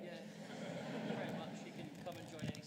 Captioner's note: audience laughing